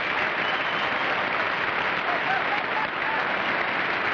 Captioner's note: applause